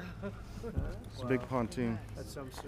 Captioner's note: laughs